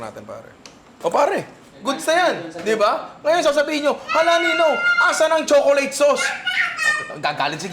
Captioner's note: baby cries